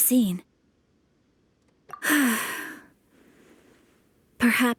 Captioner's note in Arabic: آمي تتنهد